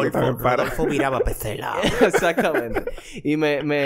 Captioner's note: laughs